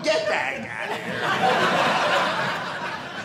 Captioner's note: audience laughing